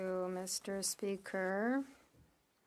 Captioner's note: speaking French